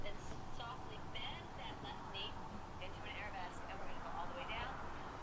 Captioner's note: faint voice